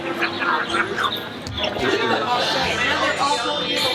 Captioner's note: group chatting